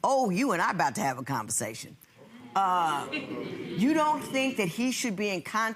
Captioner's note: audience laughing